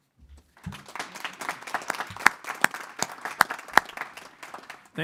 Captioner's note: board applauding